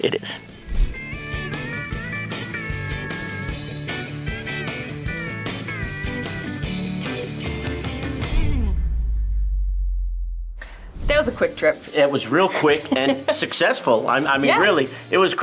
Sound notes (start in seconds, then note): 0.9 upbeat music; 8.1 text whooshes